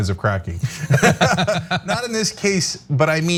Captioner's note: laugh